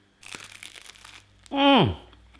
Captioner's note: crunching